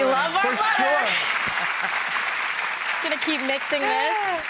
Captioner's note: audience clapping